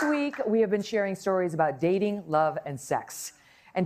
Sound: applause

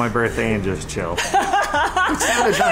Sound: laughing

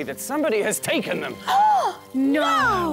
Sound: gasp!

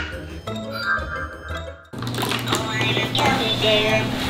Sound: magic sound

